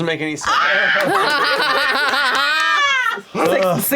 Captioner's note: laughter